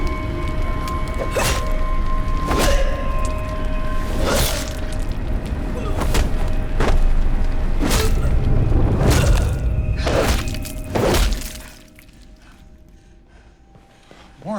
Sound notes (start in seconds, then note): 1.2 grunting; 12.2 panting